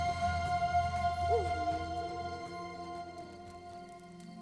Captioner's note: wolf howls; fire crackles over gentle music